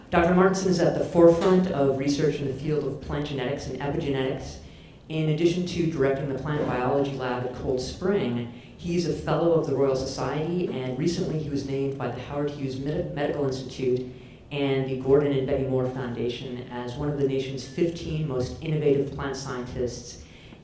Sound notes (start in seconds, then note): none